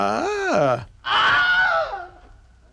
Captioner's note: Wilhelm Scream